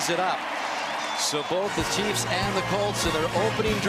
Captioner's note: cheering